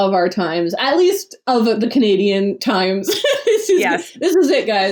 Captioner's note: laughs